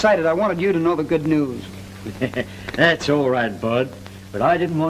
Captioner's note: laughs